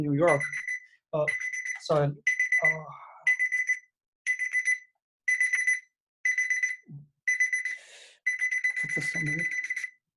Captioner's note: alarm Beeping